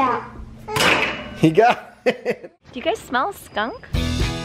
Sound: laughs

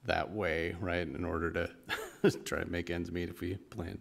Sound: chuckle

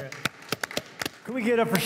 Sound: applause

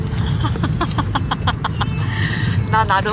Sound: haha

